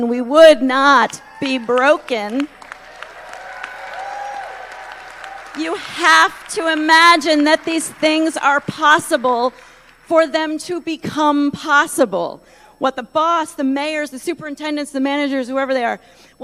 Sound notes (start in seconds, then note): 6.3 applause